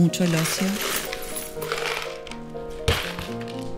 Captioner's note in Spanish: piezas de vidrio chocando entre sí